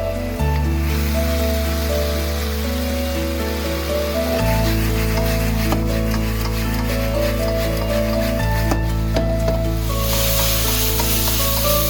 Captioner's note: sizzling